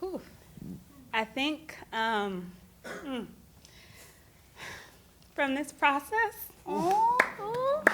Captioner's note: exhale; scattered claps